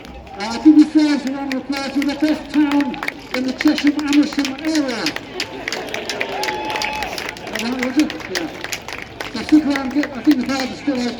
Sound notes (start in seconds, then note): 5.4 applause